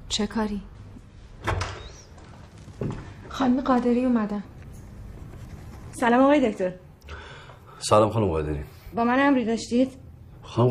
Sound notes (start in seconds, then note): 1.4 door opening